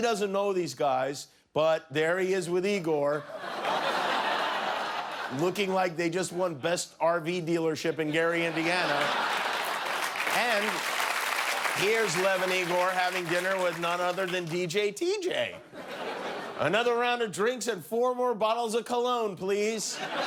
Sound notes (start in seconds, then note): 3.2 laughter; 13.8 laughter and applause